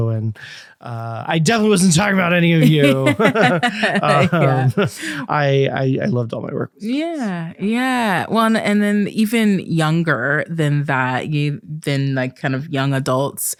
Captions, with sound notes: And I definitely wasn't talking about any of you! (Both laughing) I loved all my work. Yeah, yeah. Well, and then even younger than that, kind of young adults,